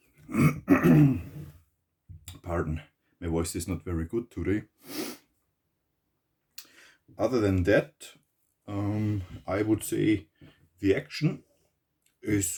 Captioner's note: coughs